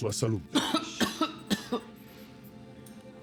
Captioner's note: Azzurro coughing repeatedly